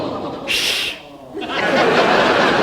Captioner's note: audience laughs; Ted E shushing